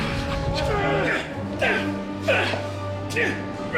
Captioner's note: grunting